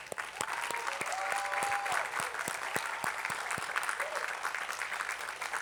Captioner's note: attendees applauding